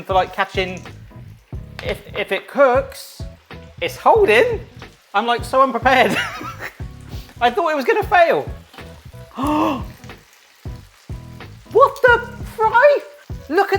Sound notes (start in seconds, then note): 9.3 gasping